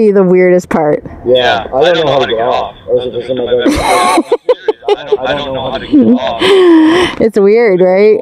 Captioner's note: laughter